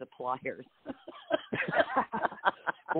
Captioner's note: laughs